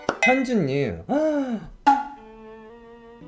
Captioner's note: gasps